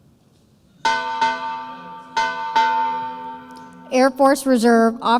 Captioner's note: bell dings